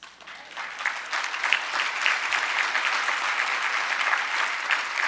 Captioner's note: audience applauding